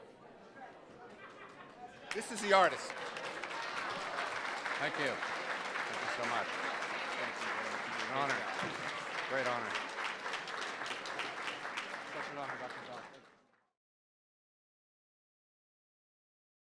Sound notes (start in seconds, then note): 3.7 audience applauding; 8.2 speaks faintly